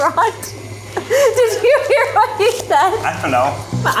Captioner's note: laughs